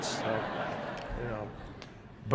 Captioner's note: laughter